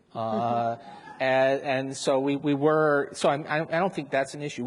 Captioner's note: audience members laugh